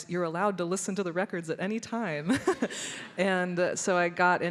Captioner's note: chuckles